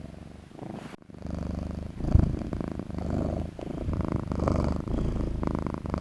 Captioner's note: Julian purring